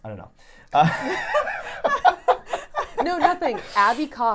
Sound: laughing

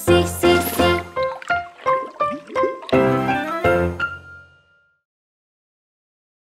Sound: bright music; water burbles

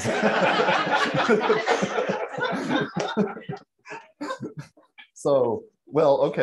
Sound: laughing

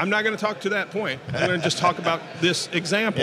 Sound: laughs

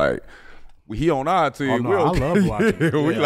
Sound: laughs

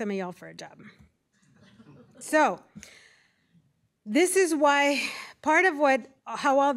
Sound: laughter

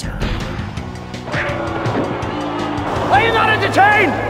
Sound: crowd Booing

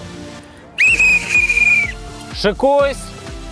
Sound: звук свистка

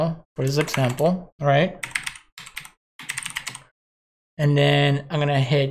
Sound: computer keys

